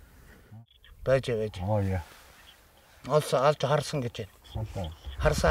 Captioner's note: foreign language